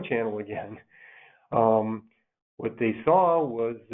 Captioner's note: chuckles